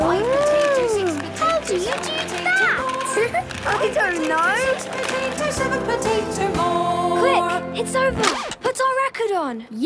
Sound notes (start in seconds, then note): 3.1 laughing